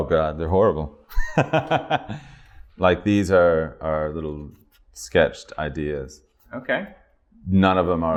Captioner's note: laughter